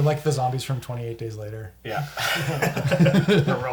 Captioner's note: all laugh